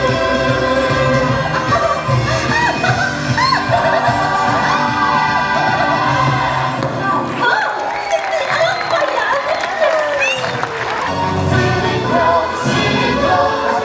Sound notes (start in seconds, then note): 2.4 Minnie giggling; 8.0 Clarabelle speaks in French; 8.0 audience applauding